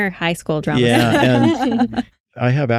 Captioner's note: laughter